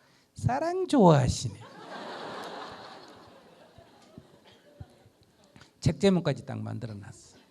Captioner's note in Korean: 청중 웃음